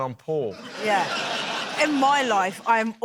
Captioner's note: laughter